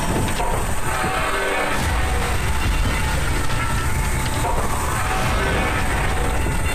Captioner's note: soft intense music; metal crunching